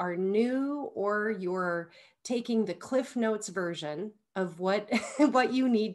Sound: chuckles

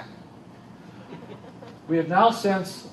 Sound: laughter

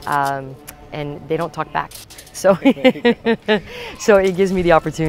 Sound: laughs

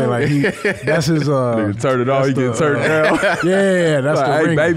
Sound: laughs

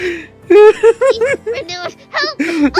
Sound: laughing

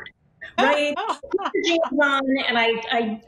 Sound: laughing

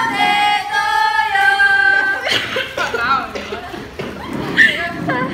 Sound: coughs

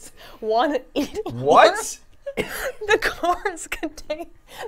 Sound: laughs

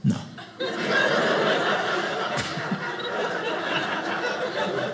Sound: audience laughing

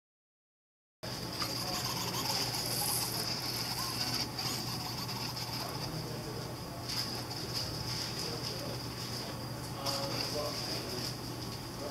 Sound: soft mechanical whirring

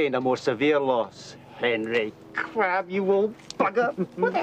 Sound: chuckling

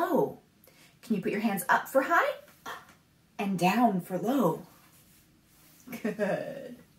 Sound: laughs

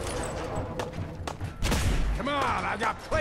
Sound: blam!

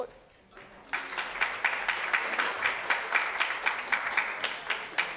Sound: audience clapping

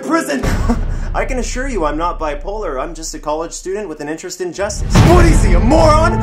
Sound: small laugh

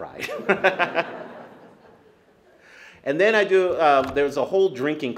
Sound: laughs

